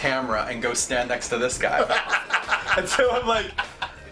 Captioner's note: laughs